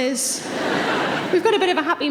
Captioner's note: audience laughing